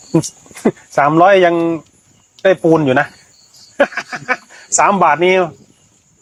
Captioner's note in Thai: เสียงหัวเราะ